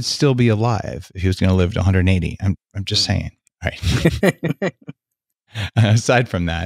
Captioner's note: laughing